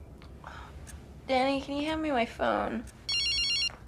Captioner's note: a clock ticks. Crickets chirp. Clock continues ticking throughout; tired, half mumbling; two more rings from the phone